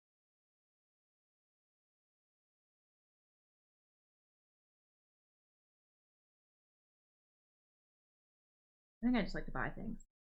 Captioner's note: silence